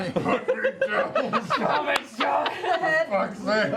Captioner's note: through clenched teeth